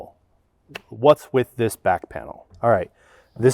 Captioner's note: slaps knee